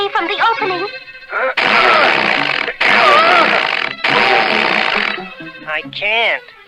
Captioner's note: Underdog struggles & sputters